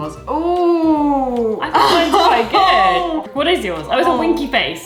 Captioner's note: laughs